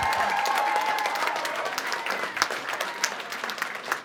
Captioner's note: cheering and applause